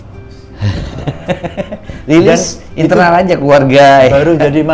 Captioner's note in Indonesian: tertawa